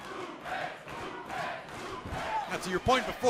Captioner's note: fans chanting